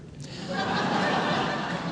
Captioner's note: crowd laughing